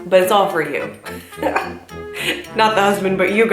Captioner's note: laughs